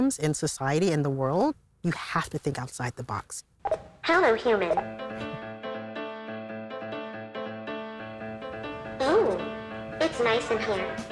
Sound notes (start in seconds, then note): 3.5 robot warbles; 4.3 bouncy piano music